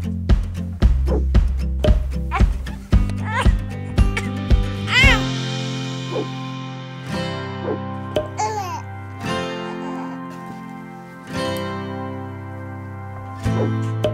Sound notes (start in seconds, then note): 0.0 upbeat music; 4.1 swooshing; 8.9 upbeat music; 13.9 swooshing